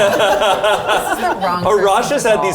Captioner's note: all laughing